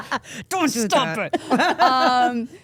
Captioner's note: laughs